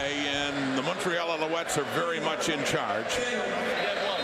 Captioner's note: crowd Noise